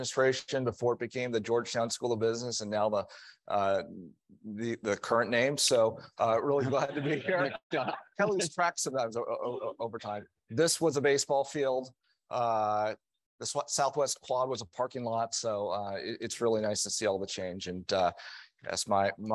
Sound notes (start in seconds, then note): 6.7 audience laughing